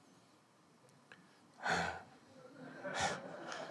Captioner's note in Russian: смех